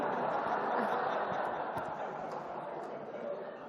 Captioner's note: laughter